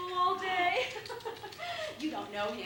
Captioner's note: laughs